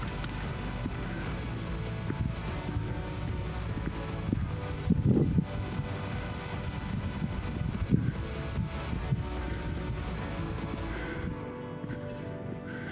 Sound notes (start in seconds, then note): 1.6 clicks; 3.1 wind blowing; 11.5 soft music